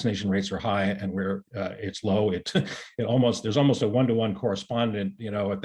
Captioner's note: chuckles